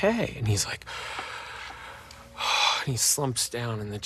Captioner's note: sighing